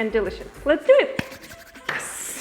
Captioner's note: rubbing palms